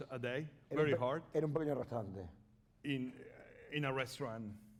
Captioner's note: speaking spanish